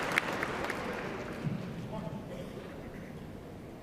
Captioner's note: applause